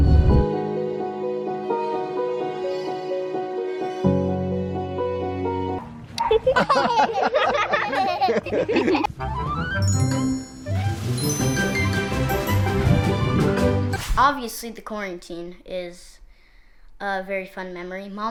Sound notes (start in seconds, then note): 0.0 gentle piano music; 6.2 all laughing